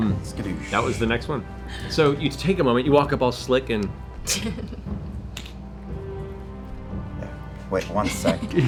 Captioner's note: click